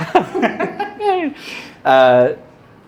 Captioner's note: laughing